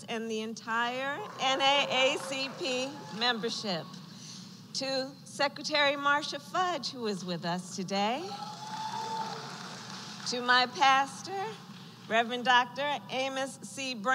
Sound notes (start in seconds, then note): 8.3 applause